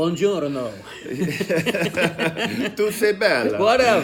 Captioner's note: laughing